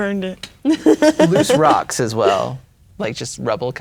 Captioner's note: laughing